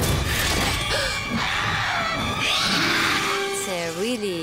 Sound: gasps

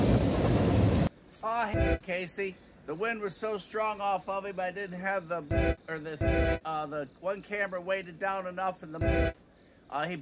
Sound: train horn

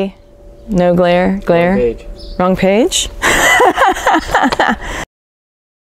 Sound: laughs

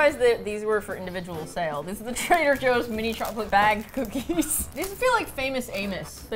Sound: laughs

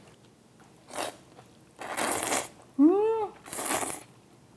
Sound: slurps

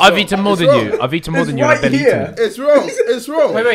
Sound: all laughing

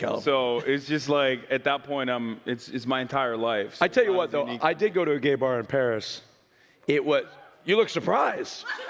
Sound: laughs

